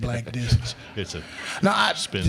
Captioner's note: crowd laughing